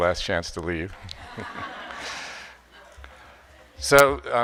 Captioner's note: audience laughing